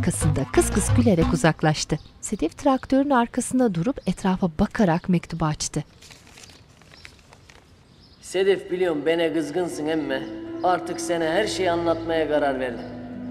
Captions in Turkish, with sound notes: (Kuş sesleri) (İsmail dış ses) Sedef biliyorum bana kızgınsın ama... ...artık sana her şeyi anlatmaya karar verdim.